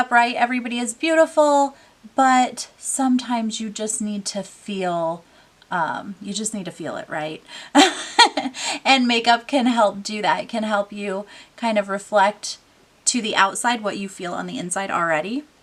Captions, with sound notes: right? Everybody is beautiful. But sometimes you just need to feel You just need to feel it, right? (laughing) And makeup can help do that. It can help you kind of reflect to the outside what you feel on the inside already.